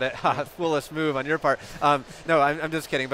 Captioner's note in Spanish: risas